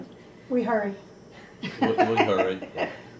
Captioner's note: laughter